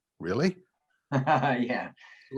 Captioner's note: laughing